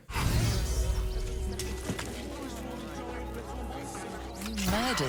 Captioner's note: weapon clangs